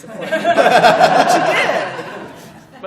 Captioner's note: laughter